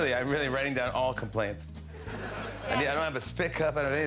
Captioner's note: laughter